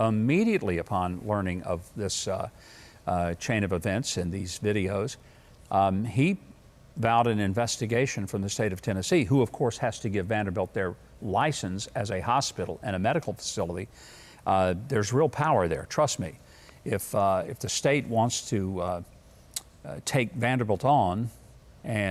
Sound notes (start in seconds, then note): none